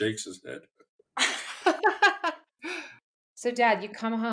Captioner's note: laughter